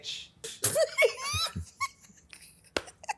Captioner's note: laughs